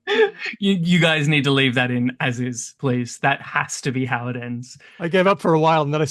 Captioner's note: laughs